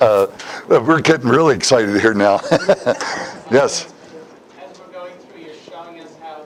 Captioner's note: Смех